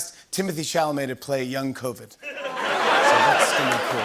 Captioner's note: laughter